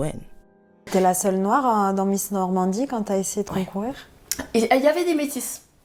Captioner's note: speaking French